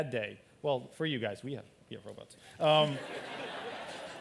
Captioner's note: laughter